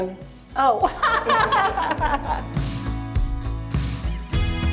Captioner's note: laughs; bright music